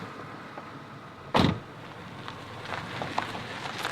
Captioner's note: door thuds